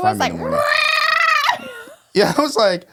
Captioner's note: cat meowing